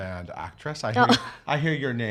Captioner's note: chuckles